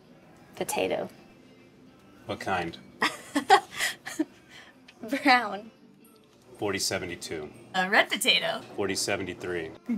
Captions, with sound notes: Potato. - What kind? (Keely laughs) - Brown. - 40-72. - Red potato. - 40-73.